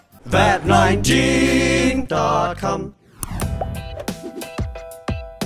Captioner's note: click; upbeat music